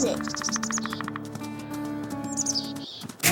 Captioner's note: bear Attack Sounds